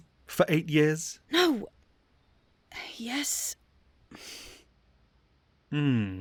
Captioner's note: sighs